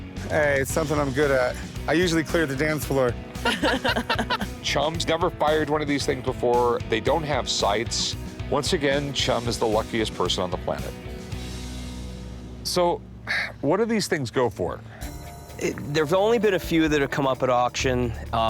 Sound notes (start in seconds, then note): 3.4 all laughing